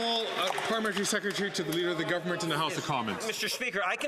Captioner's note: some Applause